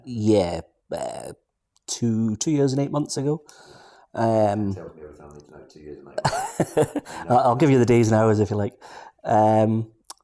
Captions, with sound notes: - Yeah, about two years and eight months ago. - Tells me everything I need to know, two years and eight months. - (laughs) I'll give you the days and hours if you'd like.